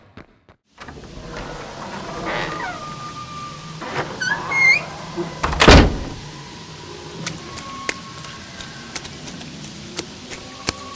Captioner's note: Opening front door and running into rain fx, Wendigo screams fx , thunder fx